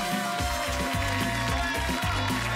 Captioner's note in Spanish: Aplausos